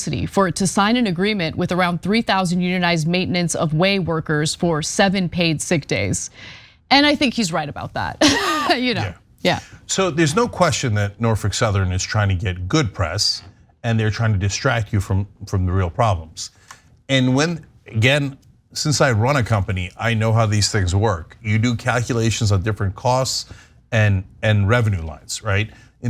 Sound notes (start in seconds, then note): 8.2 laugh